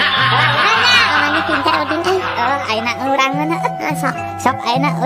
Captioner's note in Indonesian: tertawa